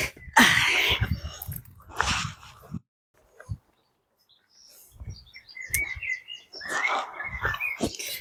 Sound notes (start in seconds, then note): 3.2 birds tweeting